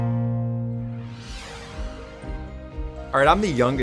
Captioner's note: ambient upbeat music; whooshing